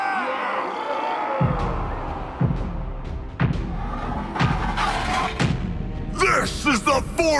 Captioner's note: soldiers cheering; heavy footsteps